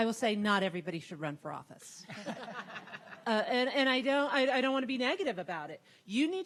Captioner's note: laughter